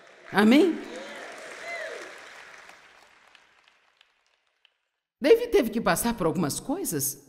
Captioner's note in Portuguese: audiência aplaude